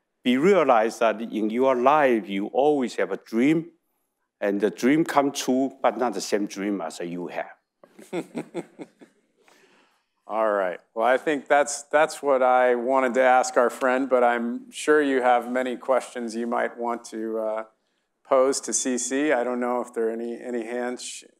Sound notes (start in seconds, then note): 7.9 chuckles